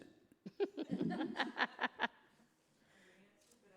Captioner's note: laughing